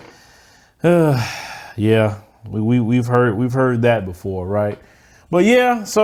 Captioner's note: sighs